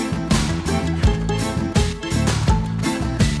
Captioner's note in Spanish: Quejidos